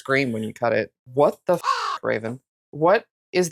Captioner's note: caw